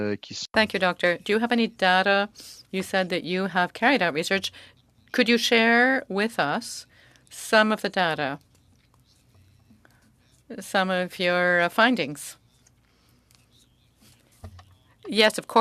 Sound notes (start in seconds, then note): 2.1 speaking French